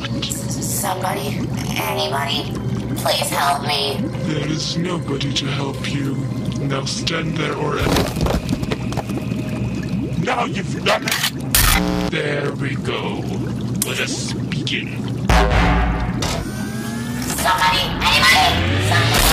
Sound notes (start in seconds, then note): 11.6 laser gun cocks; 11.6 laser blast; 11.6 Static